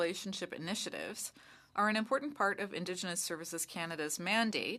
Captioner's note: speaking French